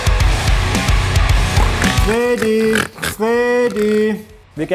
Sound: grunts

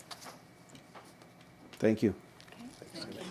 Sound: rustling

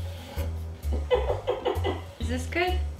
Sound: laughs Like A Dolphin

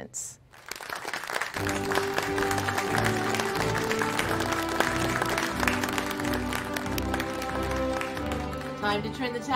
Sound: applause

